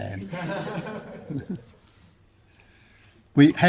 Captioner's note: laughter